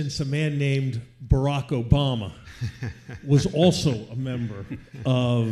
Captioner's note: audience laughs